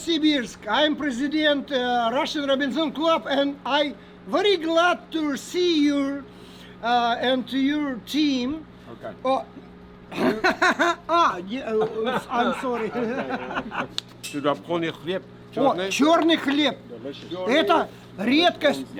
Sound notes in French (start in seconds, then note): 10.1 rires